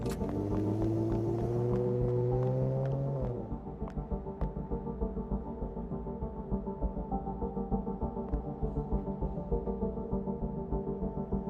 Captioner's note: car engine revs